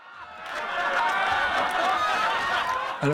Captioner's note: all laughing